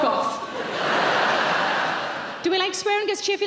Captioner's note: audience laughing